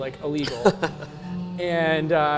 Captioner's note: laughs